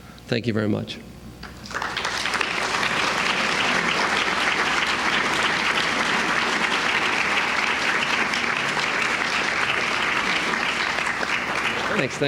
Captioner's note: applause